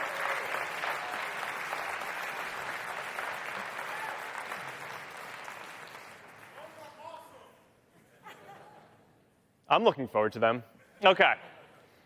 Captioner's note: applause